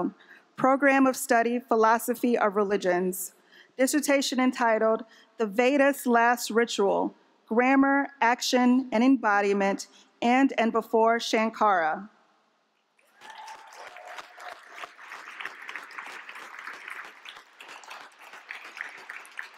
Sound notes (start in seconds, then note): 13.0 applause